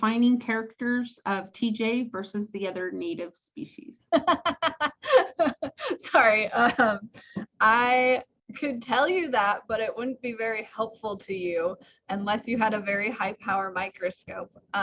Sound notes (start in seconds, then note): 4.2 laughs hard; 7.3 chuckles